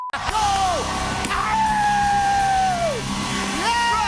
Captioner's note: howls